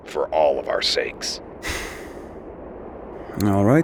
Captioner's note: Wildcard exhales smoke through nose